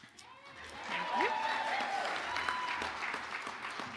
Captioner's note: audience applauding